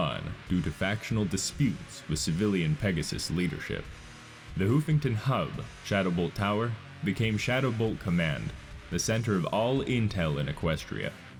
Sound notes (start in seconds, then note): none